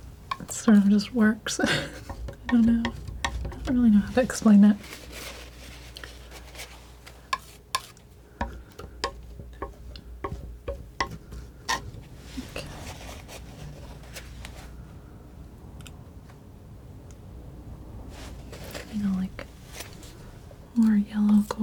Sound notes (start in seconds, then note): 5.3 tapping; 12.8 tapping